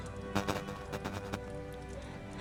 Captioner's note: gentle solemn music continues; static buzzes; gentle solemn music continues